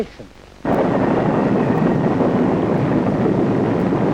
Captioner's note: wind roaring